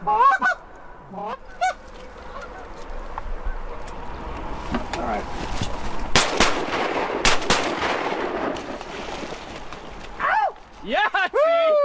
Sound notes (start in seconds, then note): 6.1 gun fires